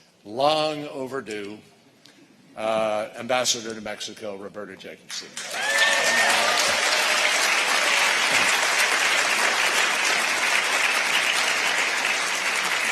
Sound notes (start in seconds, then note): 7.1 applause